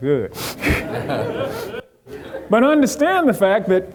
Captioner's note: audience laughing